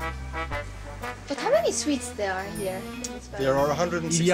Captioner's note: in English